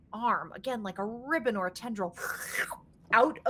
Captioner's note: slurps